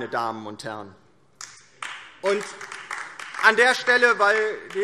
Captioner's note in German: Beifall DIE LINKE